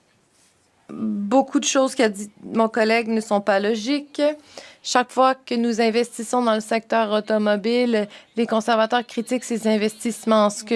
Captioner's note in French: voix de l'interprète